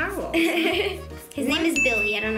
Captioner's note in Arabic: يضحك